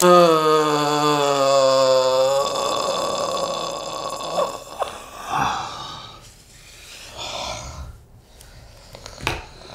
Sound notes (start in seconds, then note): 5.4 breathes deeply